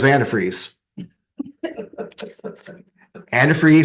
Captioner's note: laughter